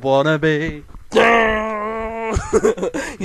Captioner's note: mimicks guitar